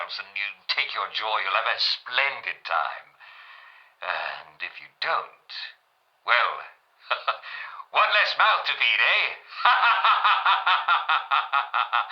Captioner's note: maniacal laughter